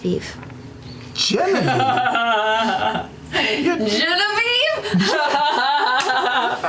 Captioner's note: laughs